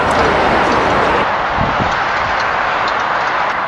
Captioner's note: loud traffic noise